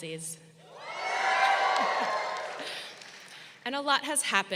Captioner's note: crowd cheering